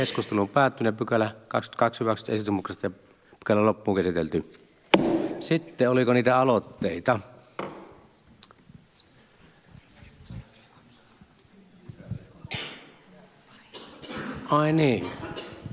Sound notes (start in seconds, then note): 4.9 Nuijan kopautus